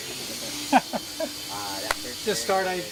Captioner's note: laughing